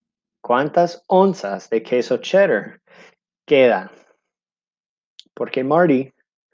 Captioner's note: speaking in foreign language